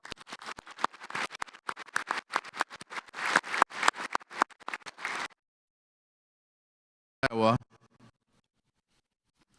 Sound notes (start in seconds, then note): 0.0 audience applauding; 5.5 audio cuts out